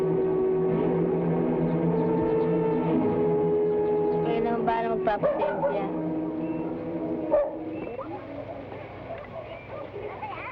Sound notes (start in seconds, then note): 4.5 woman speaking in Tagalog